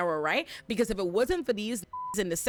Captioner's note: beep